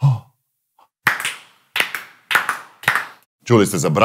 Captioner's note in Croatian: pljeskanje 4x